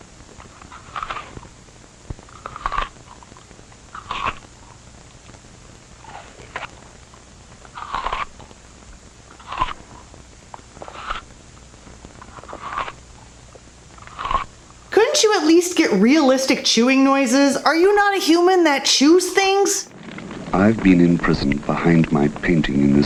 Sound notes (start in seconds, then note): 0.2 more chewing noises; 6.7 and more chewing noises